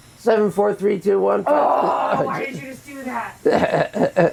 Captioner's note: lady groaning; chuckling